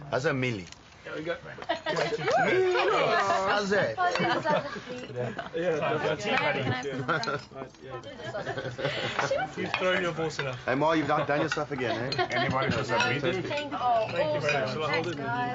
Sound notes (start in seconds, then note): 1.9 mutters; 2.2 wails